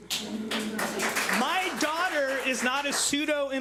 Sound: public laughing

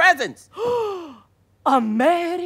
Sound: gasps

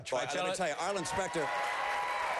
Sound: applause

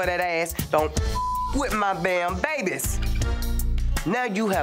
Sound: beep

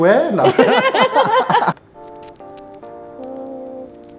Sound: both laughing

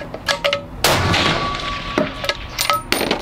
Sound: bam!!!

